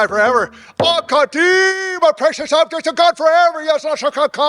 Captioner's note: speaking in foreign language